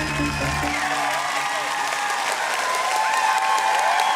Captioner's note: applause